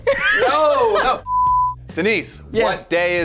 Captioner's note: laughs; beep